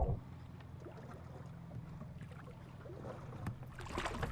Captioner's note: water splashing